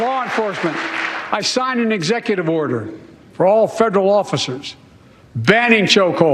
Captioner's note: cheers and applause